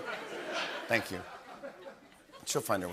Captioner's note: laughter